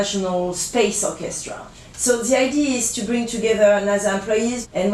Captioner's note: speaks french